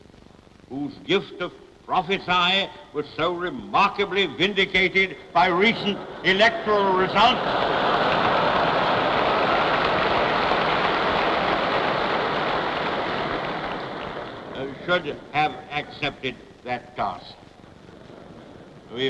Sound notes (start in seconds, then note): 8.0 applause